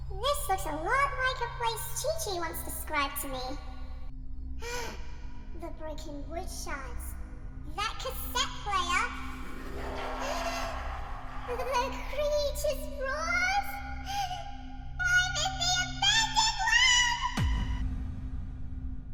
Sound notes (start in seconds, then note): 4.6 gasp; 9.2 monster Laugh; 10.6 gasp; 15.2 gasp